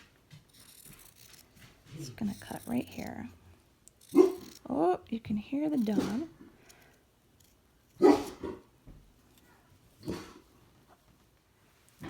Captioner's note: bark